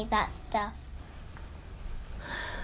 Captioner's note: sighs